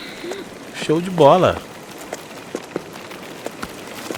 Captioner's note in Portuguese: limpando a garganta